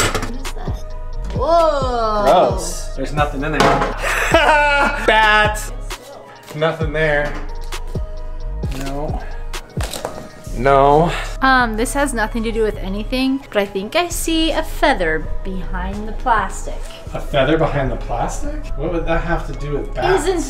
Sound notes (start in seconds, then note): 3.9 laughs